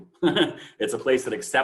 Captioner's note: chuckles